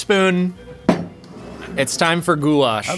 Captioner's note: bowl thudding